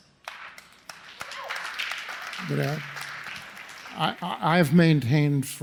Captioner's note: audience applauds